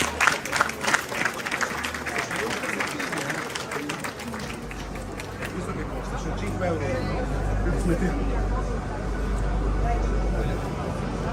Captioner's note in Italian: Applauso